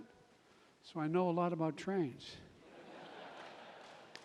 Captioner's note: laughter